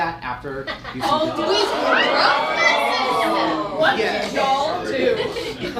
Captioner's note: audience gasps